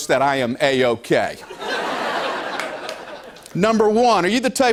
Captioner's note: laughter